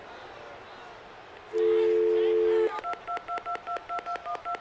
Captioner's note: phone dialing